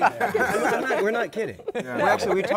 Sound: laughter

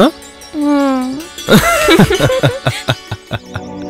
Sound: laughs

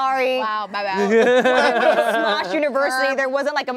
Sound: all laughing

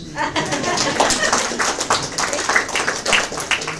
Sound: audience applause

